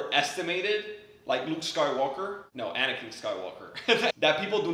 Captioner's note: laughs